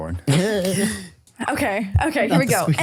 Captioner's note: laugh